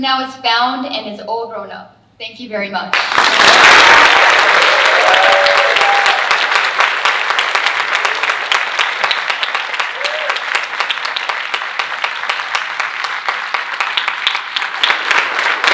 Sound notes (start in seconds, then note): 3.2 audience cheering and applauding